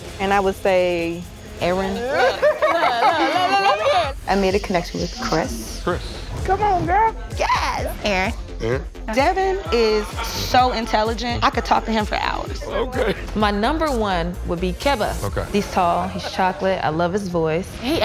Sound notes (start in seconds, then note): 2.0 laughs